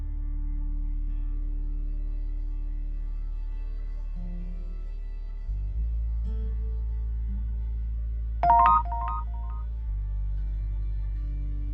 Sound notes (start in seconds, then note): 8.4 text sound; 9.9 soft music